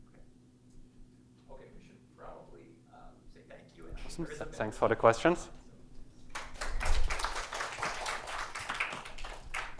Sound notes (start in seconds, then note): 6.3 applause